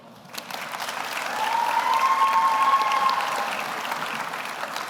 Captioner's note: audience applauds